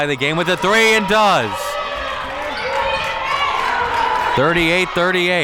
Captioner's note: audience cheering